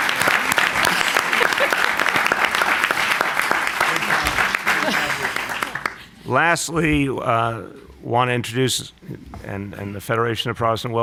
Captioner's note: applause